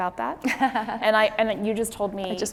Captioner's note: laughing